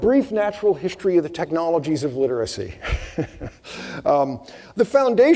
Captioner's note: laughing